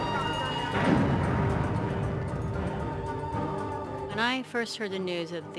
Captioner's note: explosion blasts